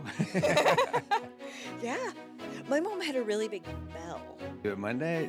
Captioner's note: laugh